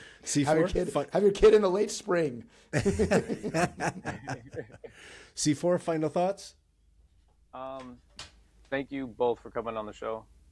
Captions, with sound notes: Have your kid in the late spring. (Laughing) C4, final thoughts? Thank you both for coming on the show.